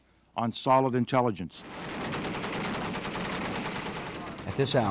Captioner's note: gunfire